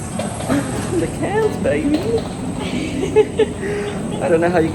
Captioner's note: laughing